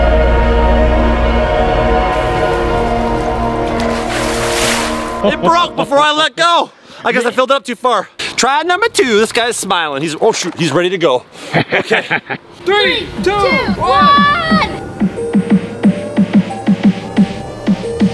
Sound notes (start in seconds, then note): 4.2 water splashes; 11.5 laughs loudly; 13.7 suspenseful music